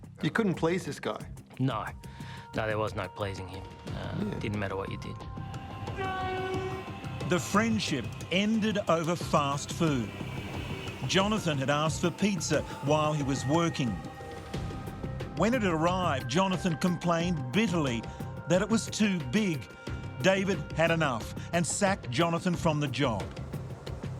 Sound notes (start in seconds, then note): 5.6 dramatic music; 5.7 train horn honking; 23.1 dramatic music